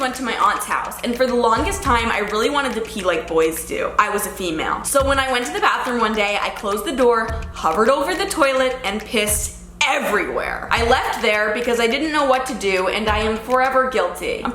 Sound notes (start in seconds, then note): none